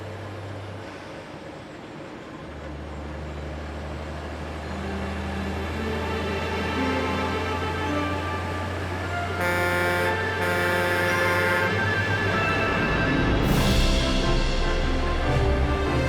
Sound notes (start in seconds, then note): 8.3 horn honking; 12.9 triumphant music